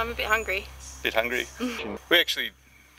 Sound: chuckles

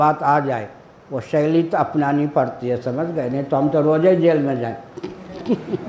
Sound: laughs

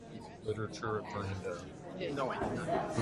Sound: voiceover

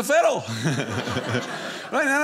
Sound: audience laughing

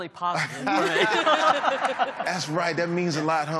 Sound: laughing

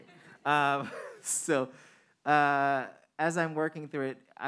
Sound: audience laughing

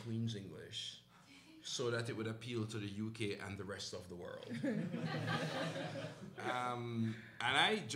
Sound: laughter

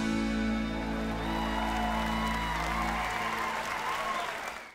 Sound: cheers and applause

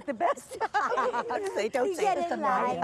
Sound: laughs

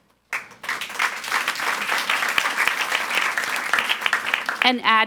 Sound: audience applauds

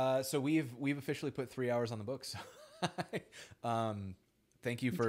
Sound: laughs

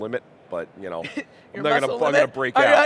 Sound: chuckling

